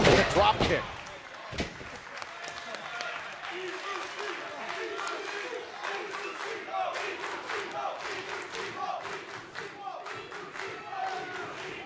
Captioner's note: crowd cheering